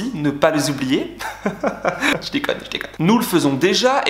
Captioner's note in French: Rires